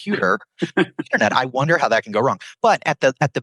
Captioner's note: laughs